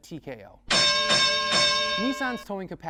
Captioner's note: bell clanging